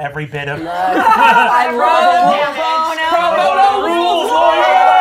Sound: gamers cheering

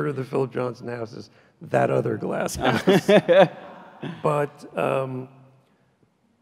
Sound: laughs loudly

